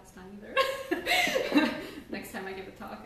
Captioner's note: laughs